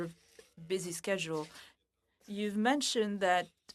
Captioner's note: speaking French